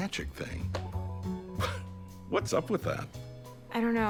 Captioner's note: chuckles